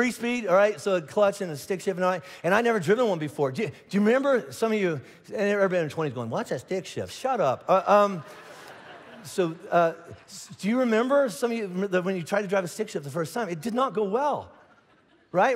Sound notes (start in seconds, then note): 7.8 congregation laughing